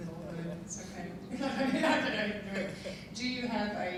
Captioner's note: laughing